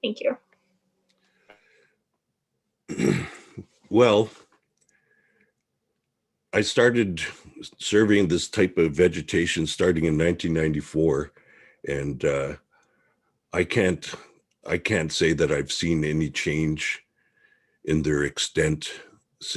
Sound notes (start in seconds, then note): 2.8 clears throat